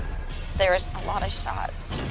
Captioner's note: gun firing